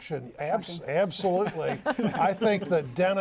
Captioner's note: laughter